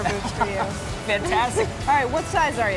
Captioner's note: laughing